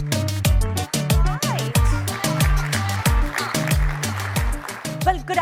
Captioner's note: applause